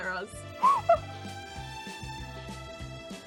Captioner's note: giggles